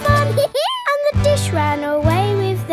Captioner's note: dog laughs